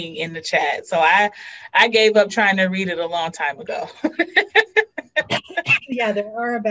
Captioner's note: laughs